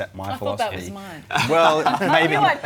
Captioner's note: laughter